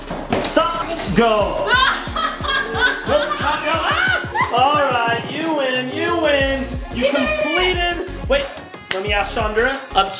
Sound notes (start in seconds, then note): 1.6 laughing